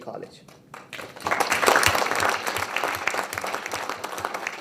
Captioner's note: people applaud